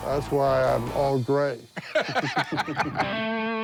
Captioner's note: laughs